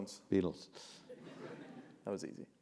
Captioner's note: laugh